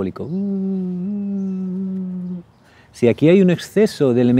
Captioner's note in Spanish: Ruido de avión